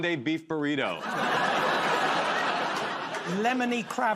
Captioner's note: laughter